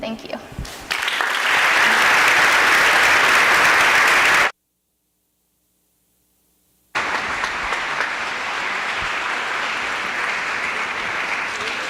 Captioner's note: applause